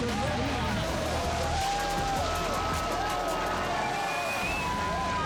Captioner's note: spectators cheering